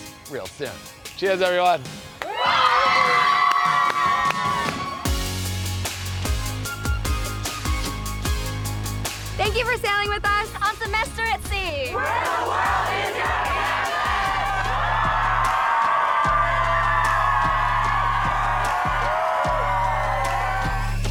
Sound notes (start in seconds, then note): 2.2 crowd cheering; 5.0 upbeat music; 15.0 crowd cheering